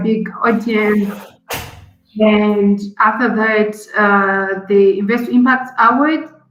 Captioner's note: door closes